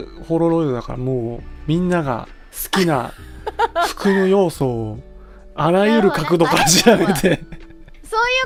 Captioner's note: laughs